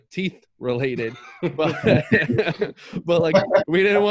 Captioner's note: all chuckle